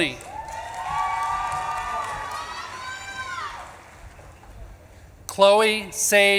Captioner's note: audience claps and cheers